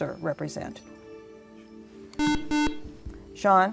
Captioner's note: buzzer